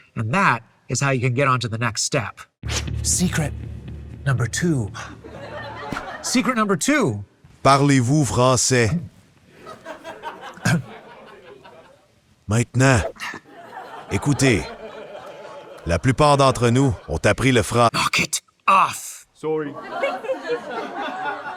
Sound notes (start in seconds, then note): 7.3 speaking french; 9.6 laughter; 12.1 speaking french